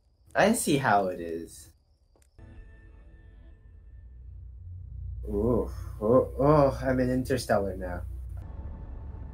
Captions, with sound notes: I see how it is. ooh *sexy moaning* I'm in Interstellar now